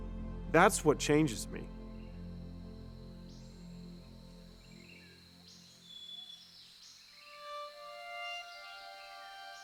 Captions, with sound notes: that's what changes me. (birds singing) (gentle violin music)